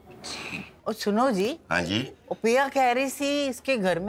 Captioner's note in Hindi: none